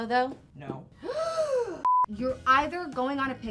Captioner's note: gasps